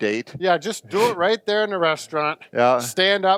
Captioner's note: chuckles